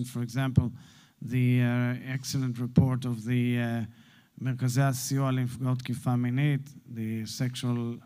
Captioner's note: Hebrew